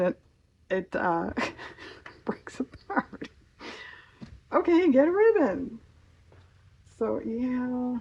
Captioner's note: laughs